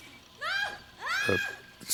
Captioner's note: student screaming